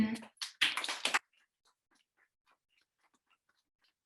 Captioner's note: audience applauding